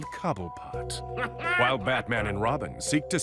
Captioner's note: Oswald laughing